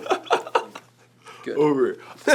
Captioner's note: laughing